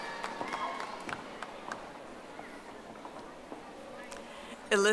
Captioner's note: audience applauding